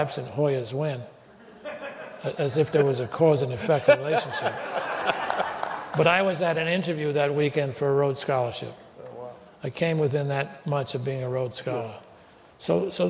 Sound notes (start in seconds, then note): 3.5 laughter